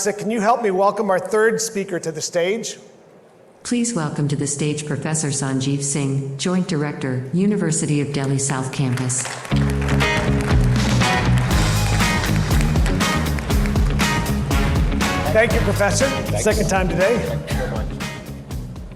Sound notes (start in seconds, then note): 8.2 audience claps; 9.5 upbeat music